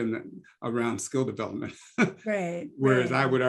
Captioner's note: laugh